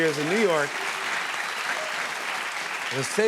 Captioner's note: cheers and applause